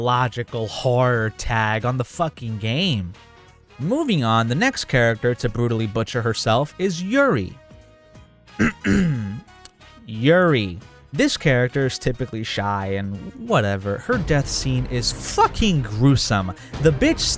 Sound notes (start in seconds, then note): 8.6 clears throat